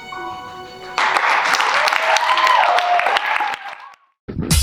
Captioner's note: audience cheers; funky outro music